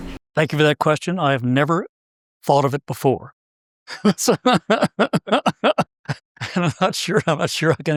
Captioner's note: laugh